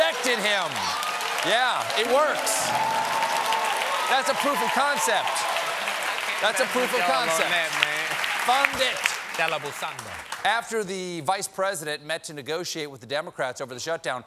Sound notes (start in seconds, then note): 2.9 cheers and applause